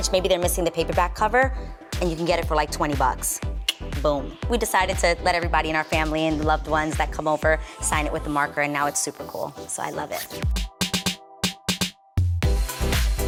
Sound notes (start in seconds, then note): 3.6 tongue clicks